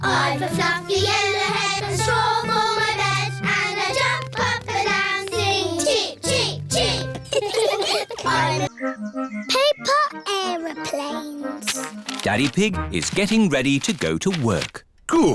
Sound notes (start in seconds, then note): 6.8 all laughing